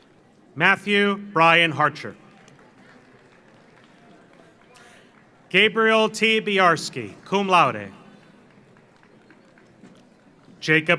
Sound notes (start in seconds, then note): 2.2 audience applauds